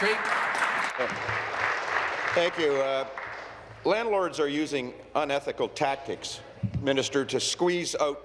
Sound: applause

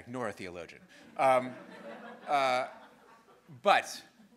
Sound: students laughing

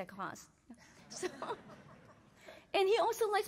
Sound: laughter

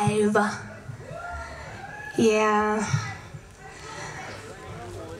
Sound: crowd cheers

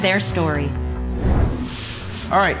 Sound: logo whooshes

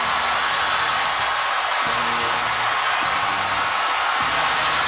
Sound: cheering and applause

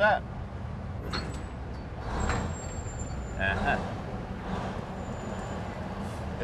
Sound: machinery noises

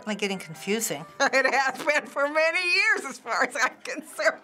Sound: while laughing

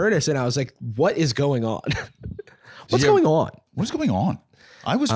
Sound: imitating Tucker Carlson

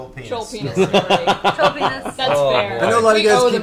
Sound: all laugh

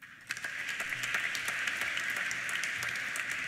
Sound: applause

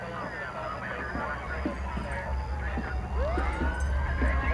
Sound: blaring sirens

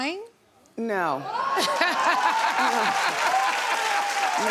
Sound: audience cheers

